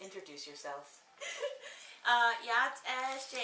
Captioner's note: laughing